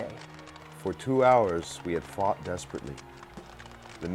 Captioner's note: voiceover